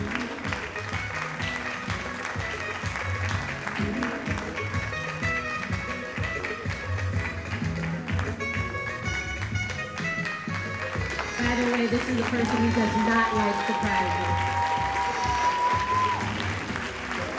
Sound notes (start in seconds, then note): 11.5 announcer faintly speaking; 13.0 audience cheering and applauding